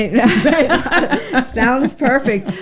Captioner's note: both laughing